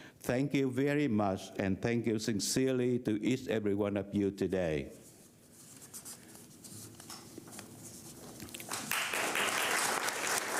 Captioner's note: applause